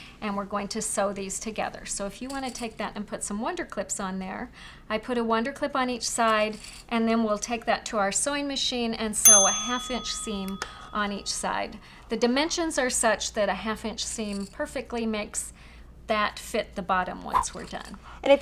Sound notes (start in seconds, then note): 9.2 ding